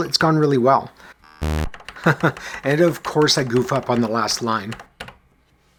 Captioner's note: chuckles